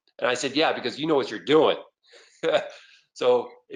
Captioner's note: laughs